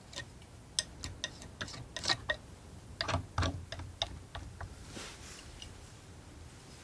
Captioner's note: tapping